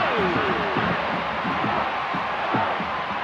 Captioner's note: thudding, chanting